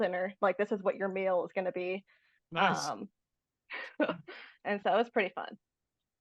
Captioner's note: laughs